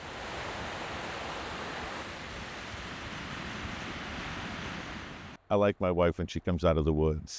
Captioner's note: water rushing